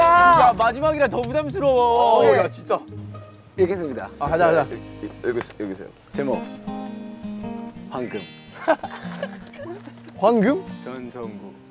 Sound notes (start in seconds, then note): 5.8 giggle